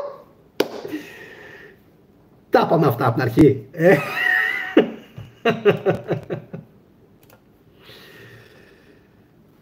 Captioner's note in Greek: γέλια